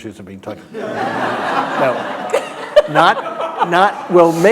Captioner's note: laughter